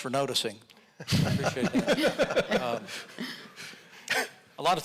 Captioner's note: audience laughing